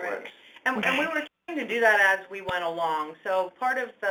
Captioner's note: voiceover